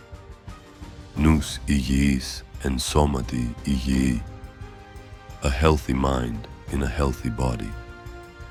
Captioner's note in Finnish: vieras kieli